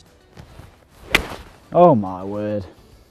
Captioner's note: golf ball cracking